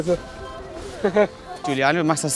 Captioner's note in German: Lachen